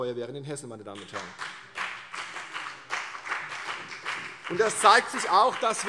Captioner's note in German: Beifall CDU und BÜNDNIS 90/DIE GRÜNEN